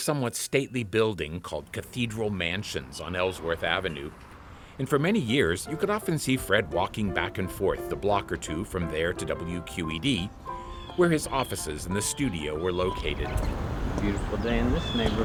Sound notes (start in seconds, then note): 10.1 bird screeching